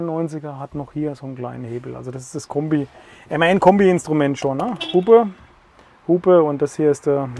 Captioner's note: honking noise